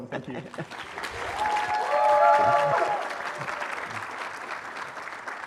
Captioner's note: cheering, applause